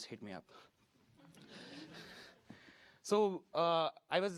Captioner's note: laughter